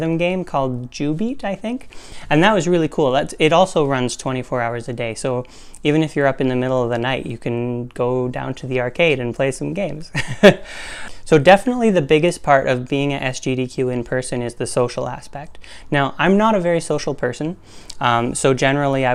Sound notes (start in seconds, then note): 10.4 laugh